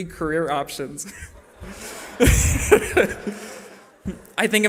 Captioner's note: laughter